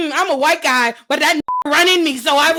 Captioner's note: beep